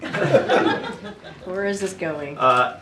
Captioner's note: laughter